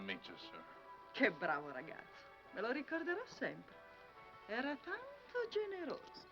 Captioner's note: speaking foreign language